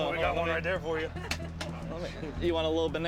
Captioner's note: laughter